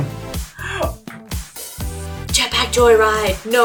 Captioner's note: gasp